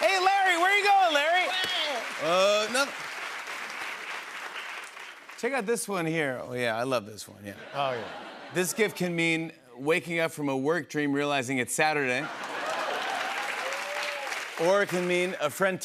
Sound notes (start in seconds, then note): 12.2 laughter, cheers, applause